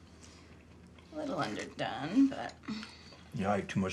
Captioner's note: sighs